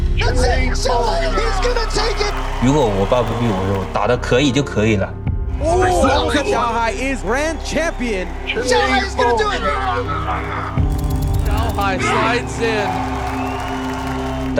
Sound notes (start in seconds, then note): 6.4 commentator 3, in English; 13.5 crowd cheering